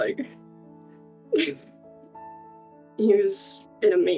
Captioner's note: giggle